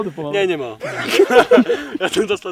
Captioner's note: laugh